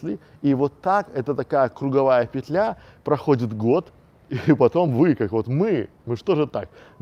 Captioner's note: chuckle